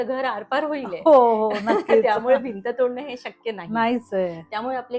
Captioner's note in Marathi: हास्य